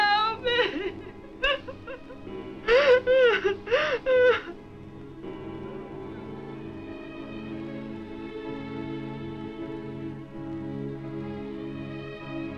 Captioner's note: crying